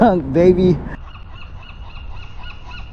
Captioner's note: seagull squawking